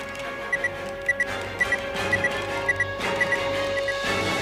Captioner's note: beeps